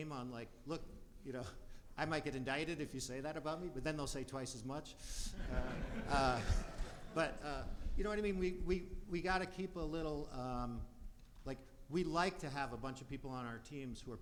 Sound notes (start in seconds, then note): 5.3 audience laughs